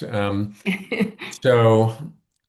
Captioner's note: laughs